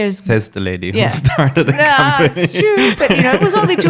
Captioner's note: laughing